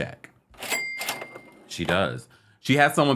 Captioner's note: cash register dings